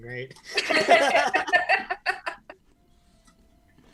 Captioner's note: laughs